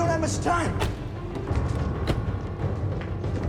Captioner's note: car door thuds; intense dramatic music